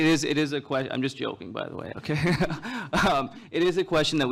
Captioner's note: laughs